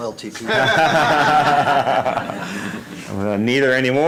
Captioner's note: laughter